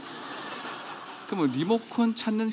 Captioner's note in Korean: 웃음